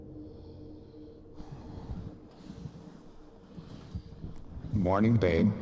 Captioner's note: Logan breathes deeply